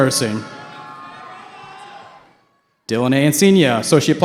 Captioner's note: cheering